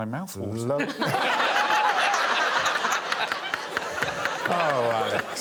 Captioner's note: all laughing